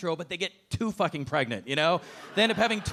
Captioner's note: audience laughing